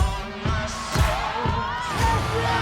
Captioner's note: crowd cheering